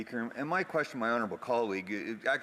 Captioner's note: speaking French